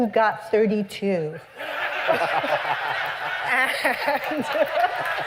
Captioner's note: laughter